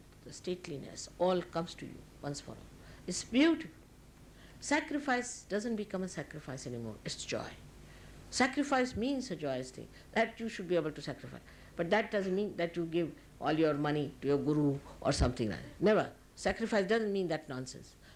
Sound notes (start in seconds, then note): none